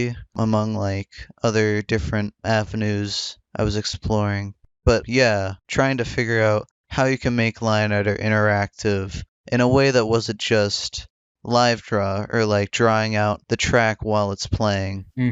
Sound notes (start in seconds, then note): none